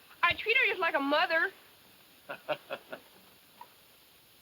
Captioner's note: laughs